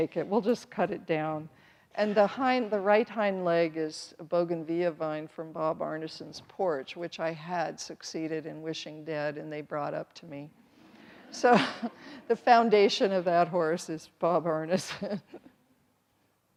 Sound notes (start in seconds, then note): 11.0 everyone laughs; 15.5 chuckles